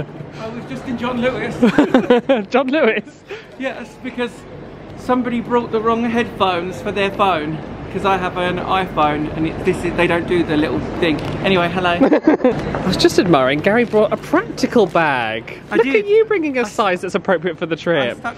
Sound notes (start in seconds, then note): 1.6 laughs; 12.0 laughs